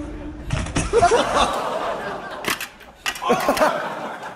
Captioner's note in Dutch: gelach